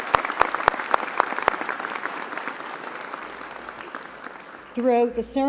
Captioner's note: applause